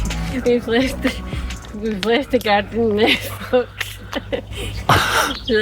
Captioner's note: laughter